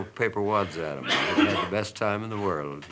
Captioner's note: coughing off camera